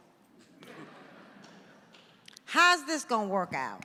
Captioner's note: audience laughing